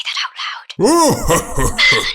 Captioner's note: merlon laughs